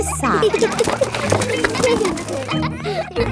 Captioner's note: kids giggling